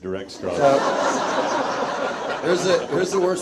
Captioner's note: audience laughs